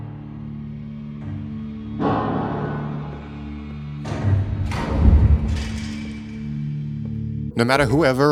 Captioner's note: Bendy vent sounds